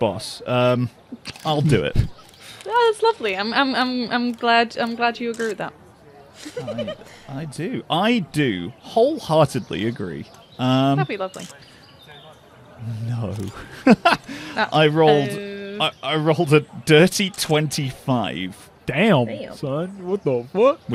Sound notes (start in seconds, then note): 1.1 chuckles; 6.4 laughter; 12.8 laughs